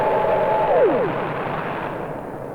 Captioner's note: spaceship powering down